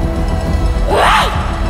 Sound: HANNA screams

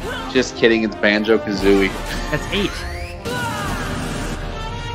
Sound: laughs

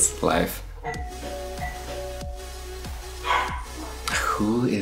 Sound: door bell rings

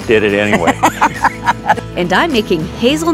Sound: both laughing

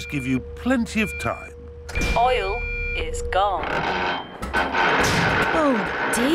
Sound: creaking

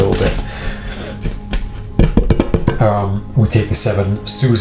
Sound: shuffling cards

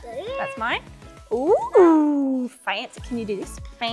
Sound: southern accent

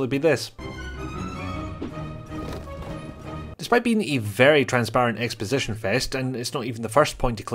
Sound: box throw

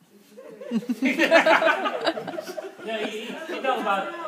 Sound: group laughing

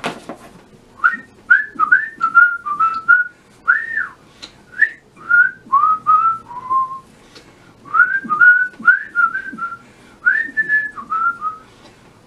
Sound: whistles a swoopty-loopty gentle tune

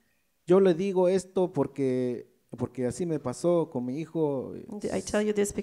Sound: speaks in foreign language

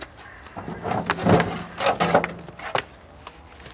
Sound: wheelbarrow rattles

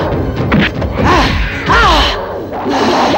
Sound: grunting; groans

